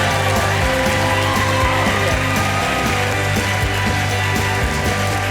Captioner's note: applause and music